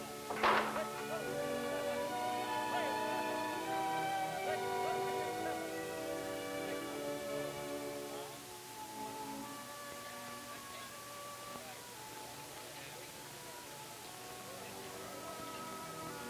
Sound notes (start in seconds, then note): 2.1 auctioneer still audible